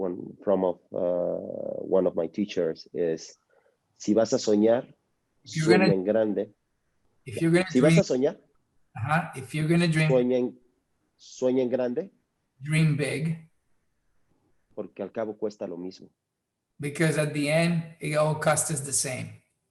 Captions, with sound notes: from one of my teachers is. (speaks in foreign language) - If you're gonna dream. (speaks in foreign language) If you're gonna dream. (speaks in foreign language) Dream big. (speaks in foreign language) Because at the end it all cast as the same.